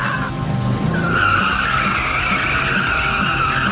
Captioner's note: tires squealing